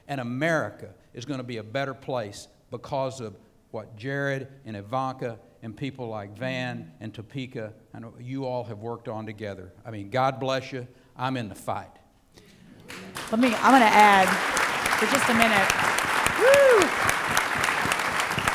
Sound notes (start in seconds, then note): 12.8 applause